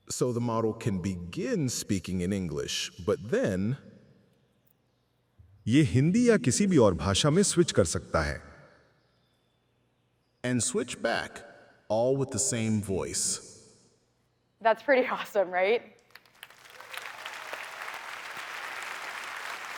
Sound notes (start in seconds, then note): 5.7 speaking hindi; 16.1 applause